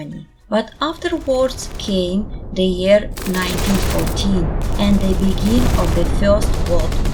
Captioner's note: war explosions